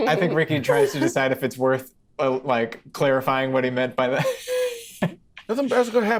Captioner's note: laughs